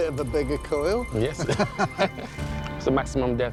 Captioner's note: laughter